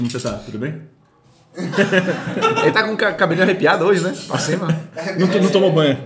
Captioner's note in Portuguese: risos